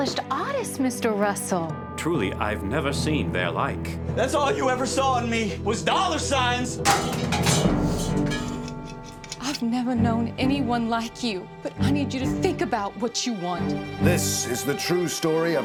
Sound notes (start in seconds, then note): 6.8 knocking metal cup; 6.9 opening flask